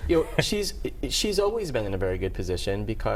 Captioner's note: laughter